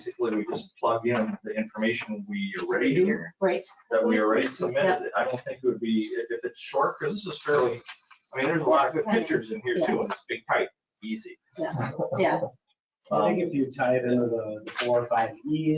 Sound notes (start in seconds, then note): 11.6 chuckling